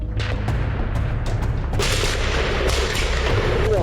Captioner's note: guns firing